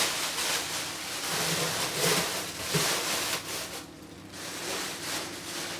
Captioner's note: plastic bags rustle